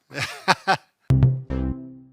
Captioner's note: laughing; musical flourish